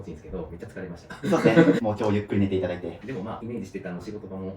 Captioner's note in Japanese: 笑い